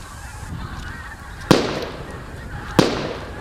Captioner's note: shots fired